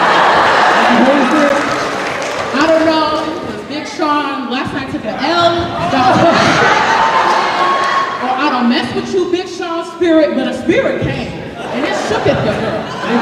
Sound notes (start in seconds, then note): 0.0 laughter; 5.7 cheering